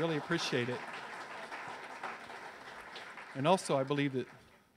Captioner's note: audience cheers